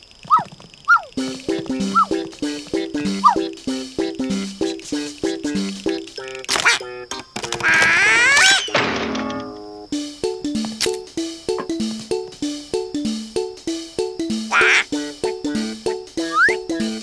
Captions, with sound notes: [woofing] -Quack! [screams] -[bang] Quack?